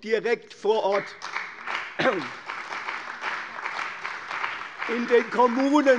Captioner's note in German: Beifall bei der CDU und dem BÜNDNIS 90/DIE GRÜNEN